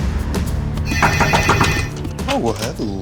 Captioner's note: intense music; knocking; ringing